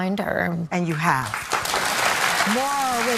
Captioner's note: audience clapping